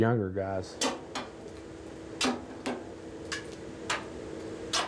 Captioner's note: bar banging